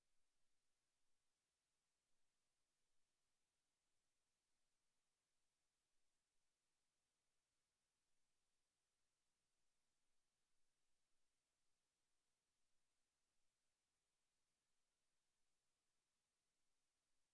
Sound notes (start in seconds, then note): none